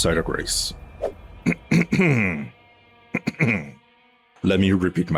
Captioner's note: clears throat